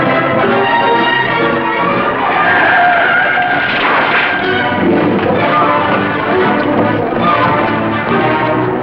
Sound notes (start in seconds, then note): 2.1 tyres Screeching; 6.9 dramatic Music